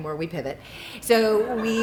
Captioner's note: laughter